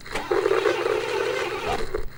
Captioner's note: engine whirring